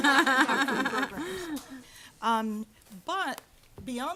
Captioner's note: audience laughter